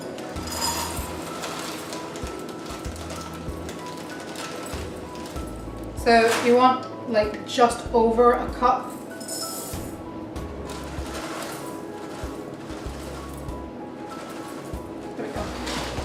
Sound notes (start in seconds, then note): 9.0 All-bran pouring into bowl